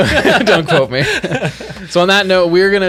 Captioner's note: all laughing